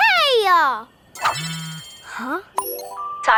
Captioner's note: wristCom rings